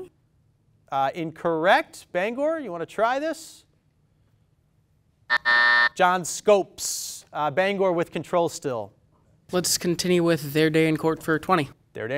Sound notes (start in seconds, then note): 5.3 timer sounds